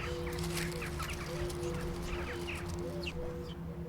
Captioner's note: birds chirping